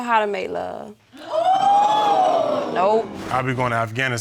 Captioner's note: audience exclaims